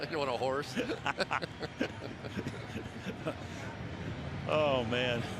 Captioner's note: laughing; laughs